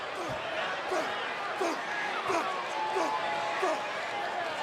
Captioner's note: Ambrose grunting